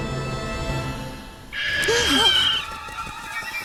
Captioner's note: gasp; screeches